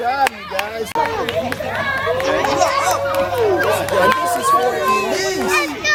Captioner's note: overlapping chatter, children screaming, clapping